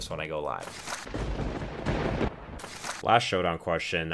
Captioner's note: thunderbolt strikes